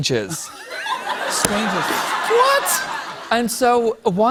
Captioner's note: laughter